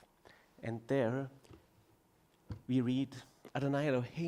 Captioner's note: speaking foreign language